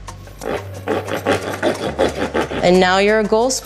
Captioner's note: stick grinding